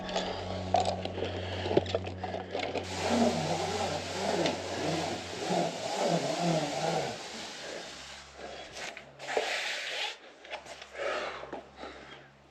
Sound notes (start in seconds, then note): 2.9 descender whizzing; 3.4 breathing